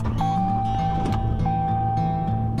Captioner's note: car beeping; soft music